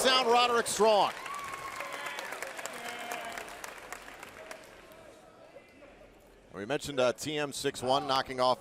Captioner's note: crowd cheering